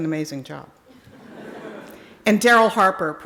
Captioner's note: audience laughing